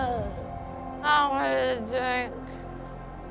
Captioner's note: slurring